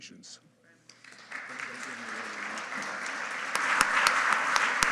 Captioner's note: audience applauding